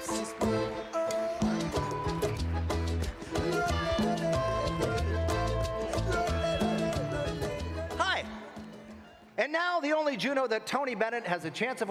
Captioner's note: applause